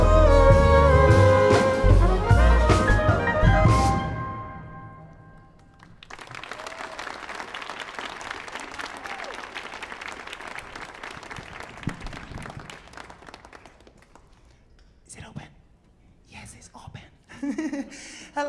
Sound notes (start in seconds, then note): 0.2 vocalizing; 5.7 audience cheering and applauding